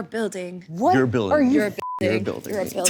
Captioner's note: beep